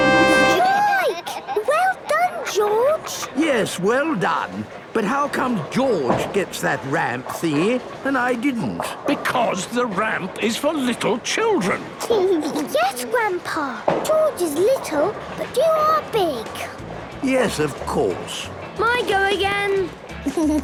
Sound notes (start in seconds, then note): 12.0 giggles; 20.2 giggles